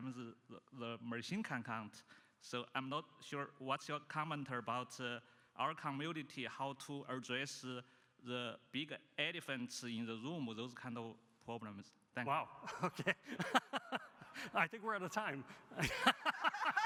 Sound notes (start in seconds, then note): 12.7 laughs; 16.3 laughs